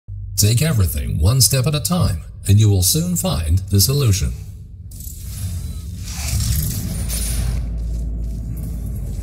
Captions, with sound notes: (Voice on speakers) "...take everything one step at a time, and you will soon find the solution."